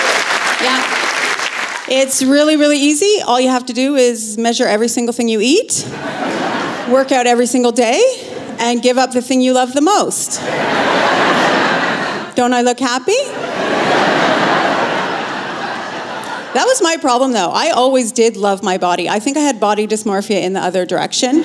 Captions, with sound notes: Yeah. It's really, really easy. All you have to do is measure every single thing you eat, workout every single day, and give up the thing you love the most. Don't I look happy? (Laughter) That was my problem, though. I always did love my body, I think I had body dysmorphia in the other direction.